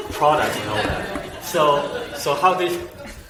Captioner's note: everyone chuckles